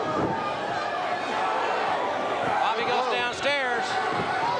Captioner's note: crowd chatter